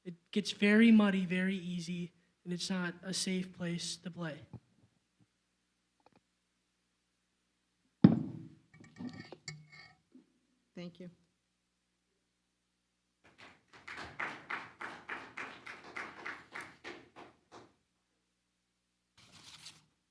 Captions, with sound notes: It gets very muddy, very easy, and it's not a safe place to play. - Thank you. (audience clapping)